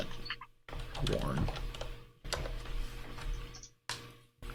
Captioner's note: keyboard keys clanking